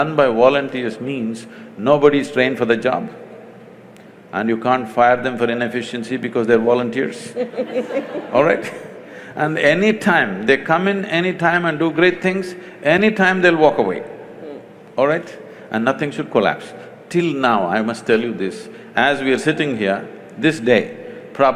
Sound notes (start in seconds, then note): 7.2 laughter; 7.4 laughs